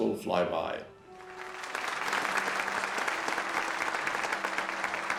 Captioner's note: audience applauding